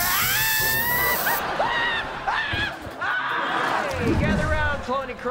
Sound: screaming

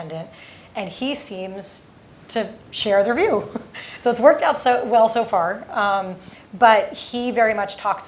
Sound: laugh

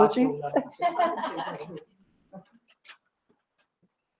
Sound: laugh

